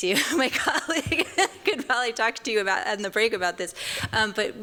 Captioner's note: chuckles